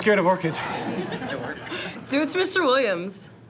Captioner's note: laughter